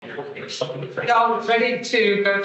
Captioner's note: attendees chattering